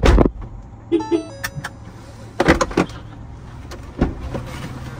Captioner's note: Indication sound